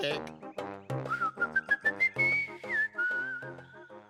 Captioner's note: whistling